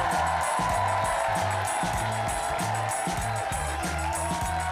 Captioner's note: audience cheering